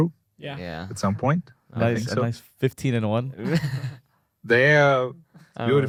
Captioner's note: laughs